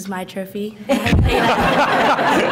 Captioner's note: laughter